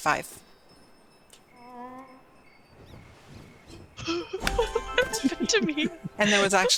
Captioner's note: laughter